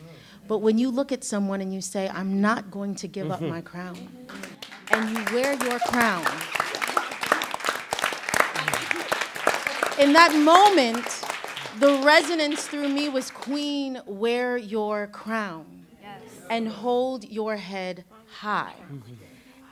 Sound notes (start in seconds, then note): 3.8 applause and excited sounds; 6.2 applause